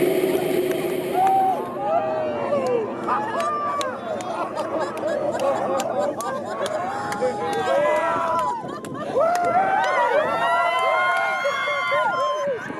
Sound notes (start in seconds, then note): 0.9 laughing, crying, screaming